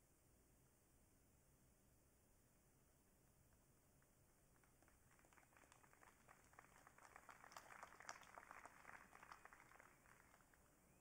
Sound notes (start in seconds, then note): 4.4 audience clapping